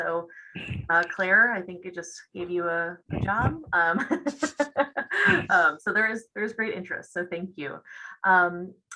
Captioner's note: laughs